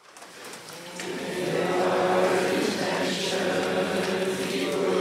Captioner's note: audience chants